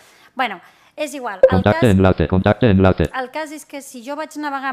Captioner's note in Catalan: veu del lector de pantalla